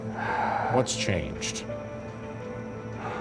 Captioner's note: sighing